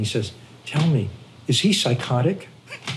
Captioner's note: laughter